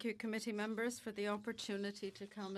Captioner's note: speaking French